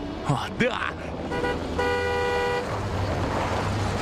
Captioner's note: horn honking